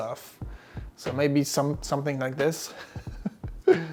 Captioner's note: laughs